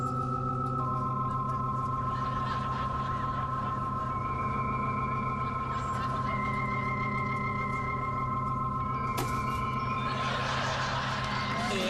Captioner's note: eerie warbling